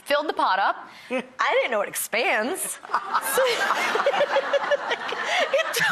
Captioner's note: audience laughs